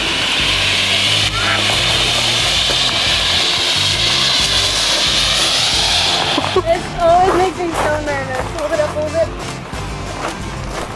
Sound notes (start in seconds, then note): 1.2 exclaiming